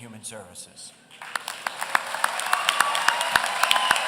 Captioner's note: applause